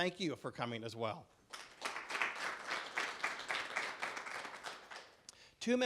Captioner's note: clapping